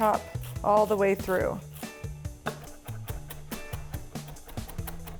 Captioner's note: herbs crunch